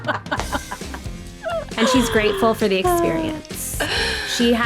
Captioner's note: laughing